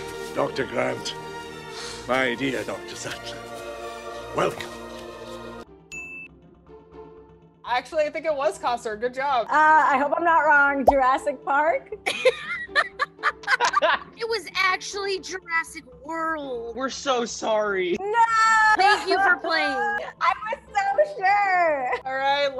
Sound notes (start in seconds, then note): 5.9 ding; 12.0 laughs